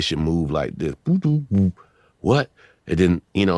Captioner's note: beat boxing